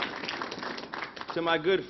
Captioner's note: applause